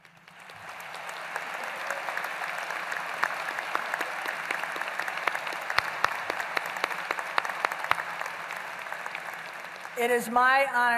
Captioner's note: applause